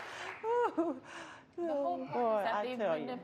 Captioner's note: laughs